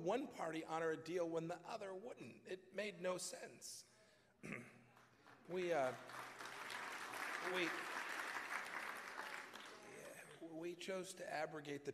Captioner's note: applause